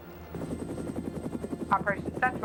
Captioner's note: helicopter buzzing